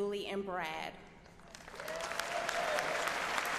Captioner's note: applause